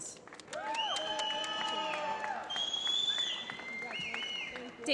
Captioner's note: applause